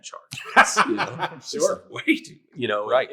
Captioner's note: laughing